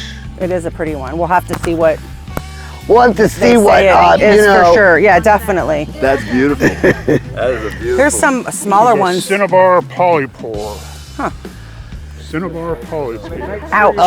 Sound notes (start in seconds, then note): 6.8 laughing